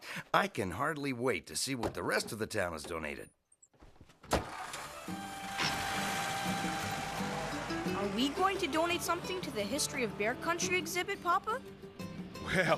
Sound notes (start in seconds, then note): 4.3 engine Starts